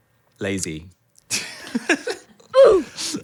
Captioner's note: laughs